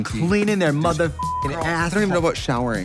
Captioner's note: beep